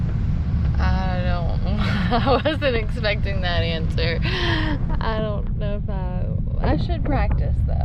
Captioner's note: laughter